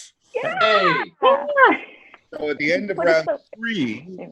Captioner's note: cheering